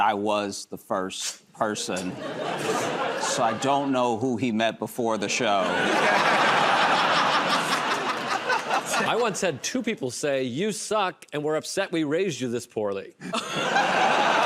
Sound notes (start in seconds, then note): 1.8 laughter; 5.5 laughter and applause